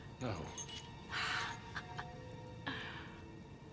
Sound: laughs

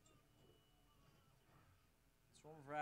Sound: yelling

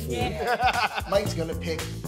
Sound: laughing

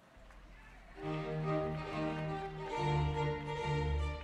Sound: applause

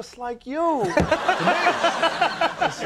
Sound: all laughing; laughter intensifies

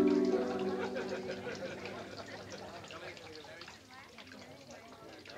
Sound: people chattering

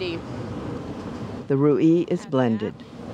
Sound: voiceover

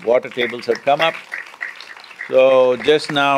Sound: applause

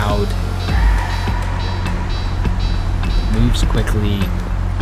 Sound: bell dinging

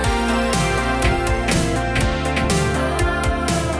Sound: hammering

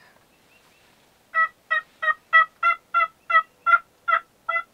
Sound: turkey yelping

